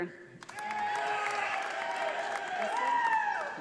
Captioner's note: audience applauding